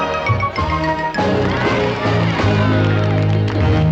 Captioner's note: applause